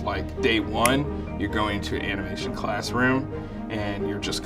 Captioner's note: snaps fingers